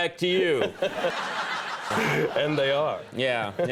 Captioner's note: crowd laughing